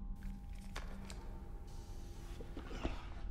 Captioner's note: air hissing